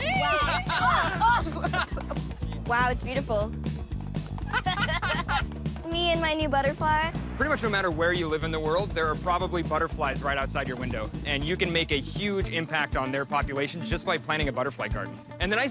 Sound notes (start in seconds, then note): 4.4 laughter